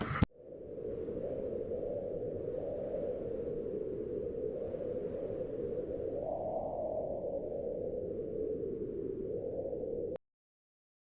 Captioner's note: wind blowing